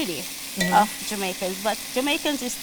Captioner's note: tongs clang on pan